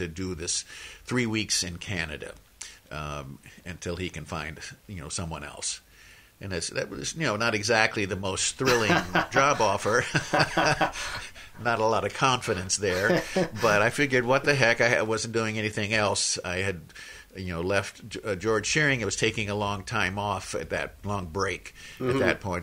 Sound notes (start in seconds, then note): 10.0 laughs